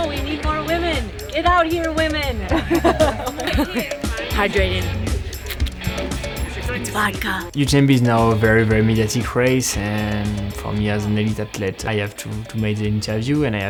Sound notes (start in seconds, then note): 2.4 everyone laughs